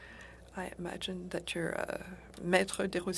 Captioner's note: speaking French